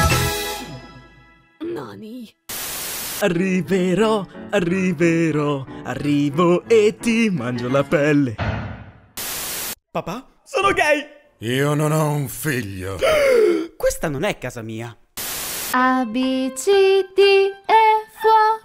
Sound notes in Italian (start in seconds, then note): 13.0 gasp